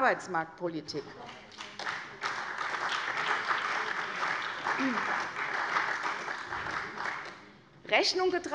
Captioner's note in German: Beifall bei der CDU und dem BÜNDNIS 90/DIE GRÜNEN